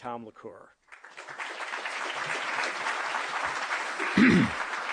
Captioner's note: applause